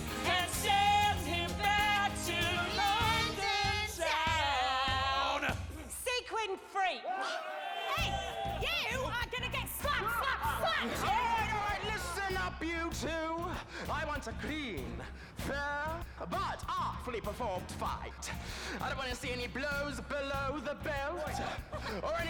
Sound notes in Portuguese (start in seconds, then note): 7.0 men yelling